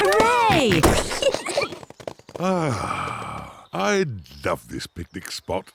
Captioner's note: oink